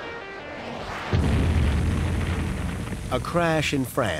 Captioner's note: crashing sound